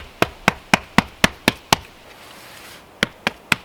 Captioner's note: patting